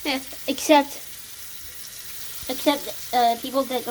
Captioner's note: water sounds